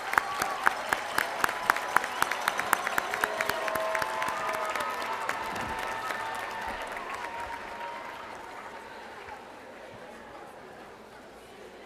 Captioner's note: applause